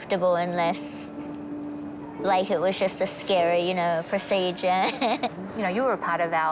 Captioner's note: laughs